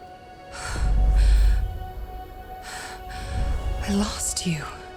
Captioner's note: Evelyn gasping